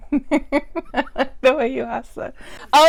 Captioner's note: laughs